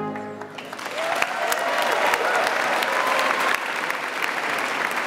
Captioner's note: audience applauds